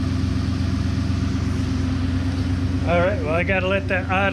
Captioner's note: engine rumbling